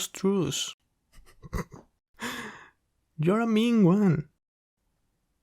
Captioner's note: snickering